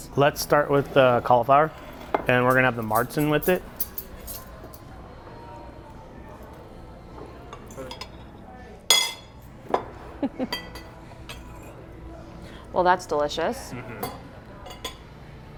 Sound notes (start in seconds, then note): 8.9 fork clangs on plate; 10.1 laughs